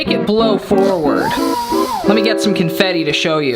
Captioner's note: fan whirring